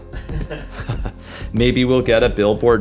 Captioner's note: laughter